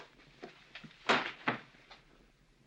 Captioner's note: smack